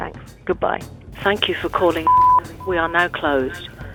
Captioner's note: beep